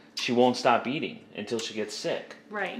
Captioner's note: makes kiss sounds